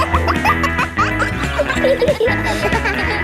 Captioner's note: kids laughing; pop music playing